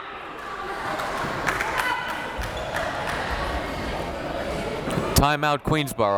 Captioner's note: crowd members talking